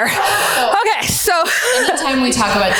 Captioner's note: laughs